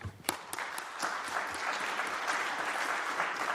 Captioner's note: applause